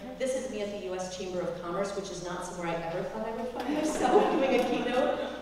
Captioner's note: laugh